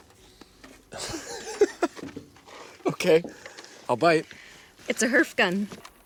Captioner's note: Mason laughing